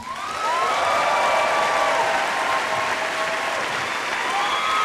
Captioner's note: cheering